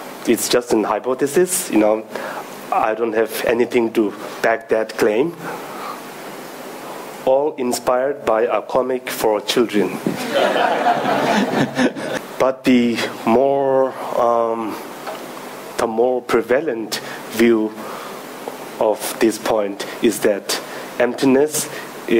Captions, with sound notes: It's just an hypothesis, you know, I don't have anything to back that claim. All inspired by a comic for children. (audience laughing) But the more, the more prevalent view of this point is that emptiness,